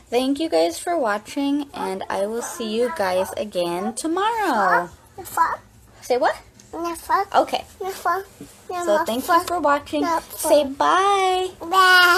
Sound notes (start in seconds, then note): 5.2 child speaking gibberish